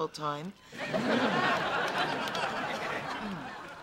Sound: laughter

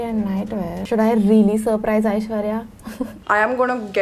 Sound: chuckles

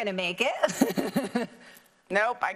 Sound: laughing

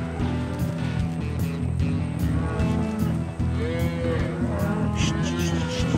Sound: cattle mooing

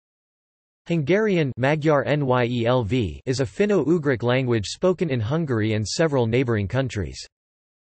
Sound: magyar nyelv

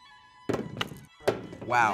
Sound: soft orchestral music; truffle thumping

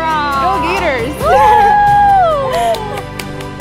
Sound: cheering

